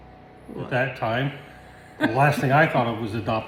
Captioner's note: giggles